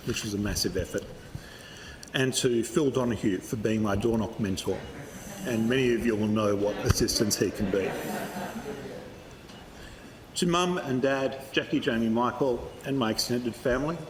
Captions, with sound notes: which was a massive effort—and to Phil O’Donaghue, for being my doorknock mentor. And many of you will know what assistance he can be. [Laughter] To Mum and Dad, Jacquie, Jamie, Michael and my extended family,